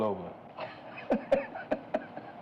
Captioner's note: laughing